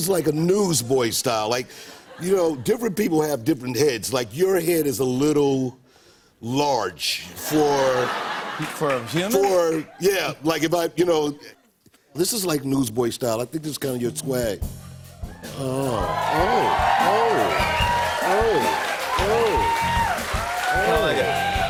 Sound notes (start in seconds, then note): 7.4 laughter; 15.3 cheers and applause